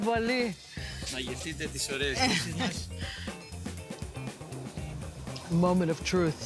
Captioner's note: speaking greek; speaking greek